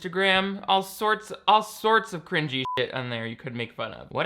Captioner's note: beeps